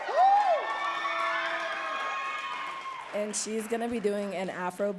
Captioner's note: audience cheering and clapping